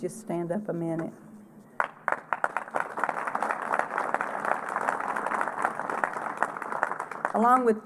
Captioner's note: applause